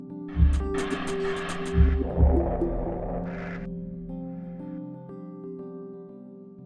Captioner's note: gentle music; graphics whooshing